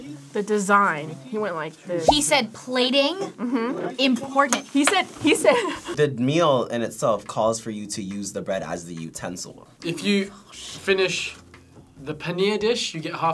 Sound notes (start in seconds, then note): 5.6 laughs